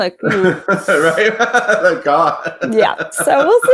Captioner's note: laughs